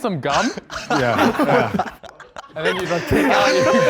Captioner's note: contestants laughing